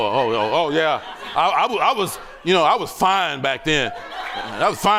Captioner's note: laughter